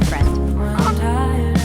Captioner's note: goose honk